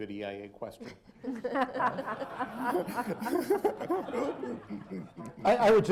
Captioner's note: laughter